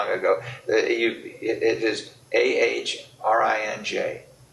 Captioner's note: laughs